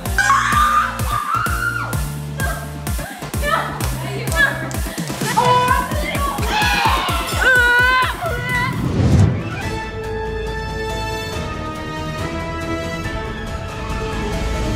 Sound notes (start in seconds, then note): 0.1 screaming; 6.0 gagging; 9.6 whimsical music